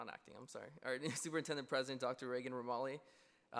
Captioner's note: laughs